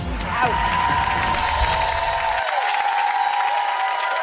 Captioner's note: applause